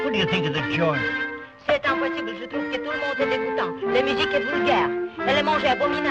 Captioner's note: speaks French